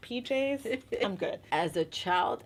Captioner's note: laughing